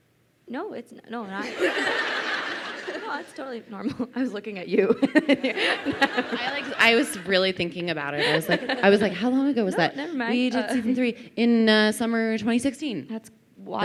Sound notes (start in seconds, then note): 1.4 crowd laughing; 4.8 laughs